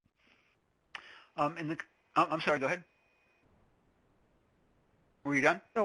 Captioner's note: voiceover